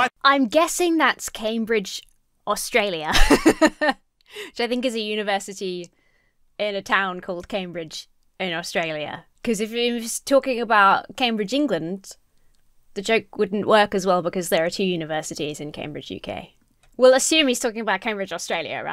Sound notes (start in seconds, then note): 3.0 laughs